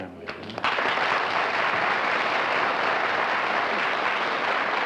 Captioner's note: applause